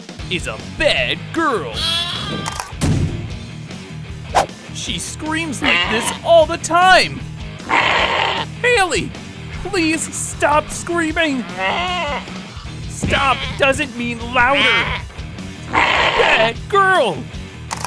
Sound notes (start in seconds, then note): 1.6 bleating; 7.6 bleating; 11.0 bleating; 15.6 bleating